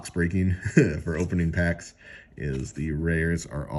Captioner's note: chuckles